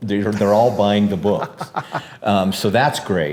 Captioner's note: laughs